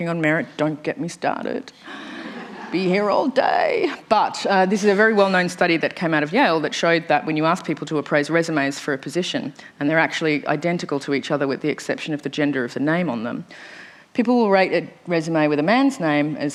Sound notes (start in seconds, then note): 2.2 laughter